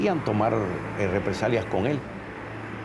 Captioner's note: speaking Spanish